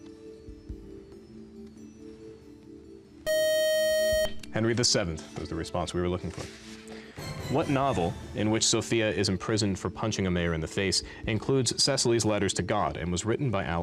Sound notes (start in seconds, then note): 3.2 time-out buzzer